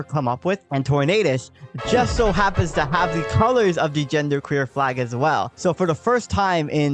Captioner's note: triumphant sfx